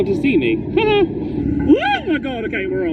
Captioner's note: shrieks